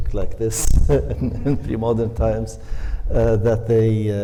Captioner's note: laughs